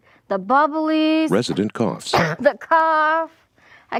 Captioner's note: coughing